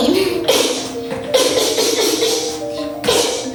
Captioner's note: grunts